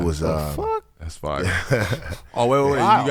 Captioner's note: laughing